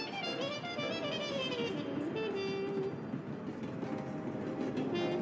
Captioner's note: sound of a train rumbling